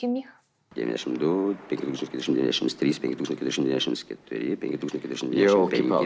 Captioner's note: calculating in Lithuanian